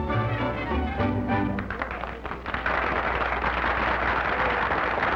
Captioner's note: applause